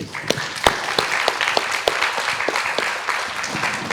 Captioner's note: audience applauding